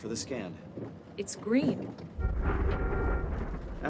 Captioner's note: honk, honk, honk